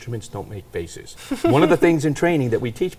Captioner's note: laughing